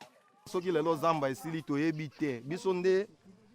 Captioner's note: local language